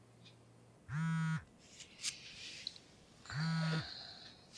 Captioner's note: phone vibrates; sighs